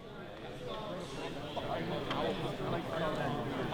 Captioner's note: people chattering